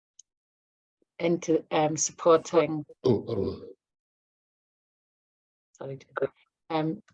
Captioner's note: clears throat